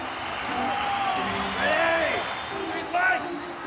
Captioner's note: crowd cheering